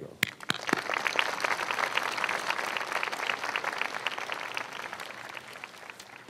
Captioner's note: clapping